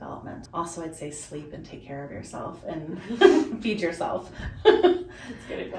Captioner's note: both laugh